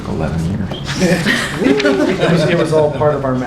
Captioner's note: laughter